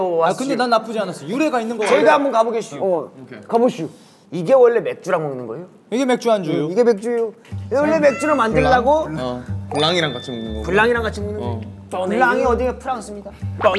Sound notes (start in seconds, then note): 7.8 meow